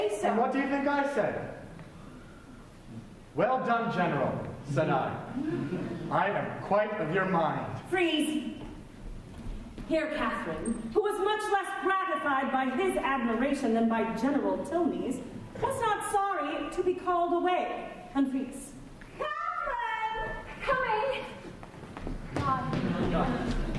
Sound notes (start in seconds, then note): 3.5 lowers his voice